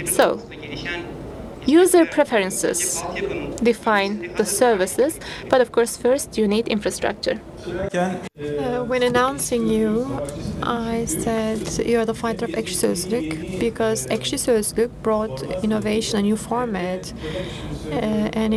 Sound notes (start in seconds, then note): 7.8 speaking foreign language